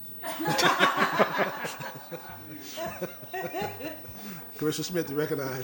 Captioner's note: laughter